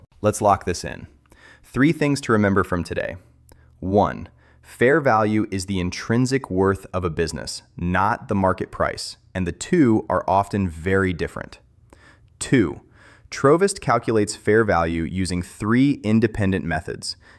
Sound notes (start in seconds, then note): 4.6 thoughtful